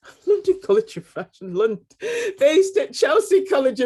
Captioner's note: woman giggling